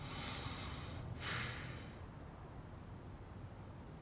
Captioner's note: man sighs